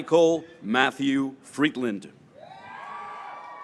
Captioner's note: graduates cheering